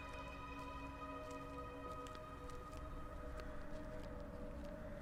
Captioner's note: footsteps plodding